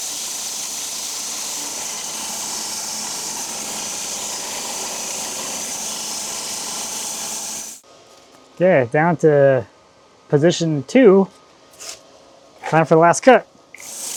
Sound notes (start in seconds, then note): 5.2 saw buzzing continues